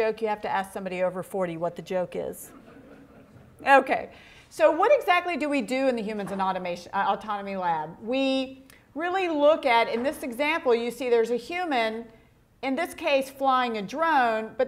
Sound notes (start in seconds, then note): 2.5 audience laughing